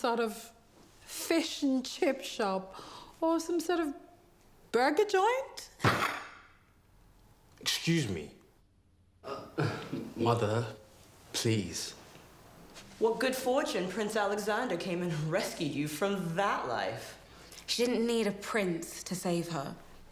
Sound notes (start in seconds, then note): 5.8 fist thudding; 9.3 laughs